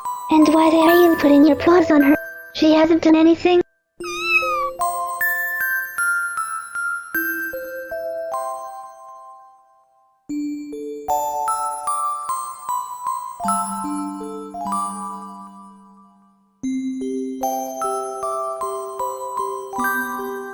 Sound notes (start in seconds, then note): 4.0 meow